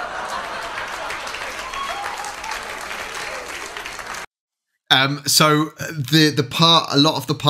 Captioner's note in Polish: Aplauz